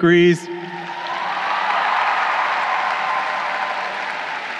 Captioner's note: crowd cheering